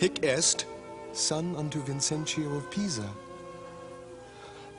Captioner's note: Sottovoce